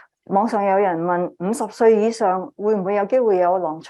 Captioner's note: speaking chinese